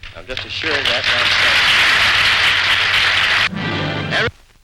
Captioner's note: applause